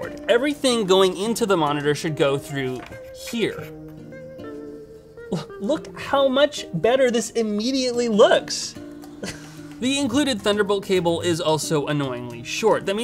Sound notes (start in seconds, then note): 3.8 calm uplifting music; 5.2 scoffs; 8.7 scoffs